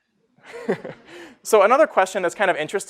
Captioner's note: laughing